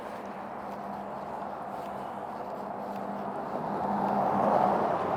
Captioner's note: car passing